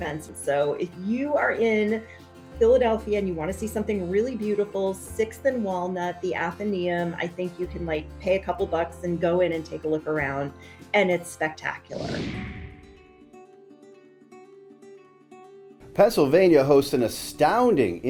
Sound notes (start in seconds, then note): 11.9 computer whooshing; 12.8 low peaceful music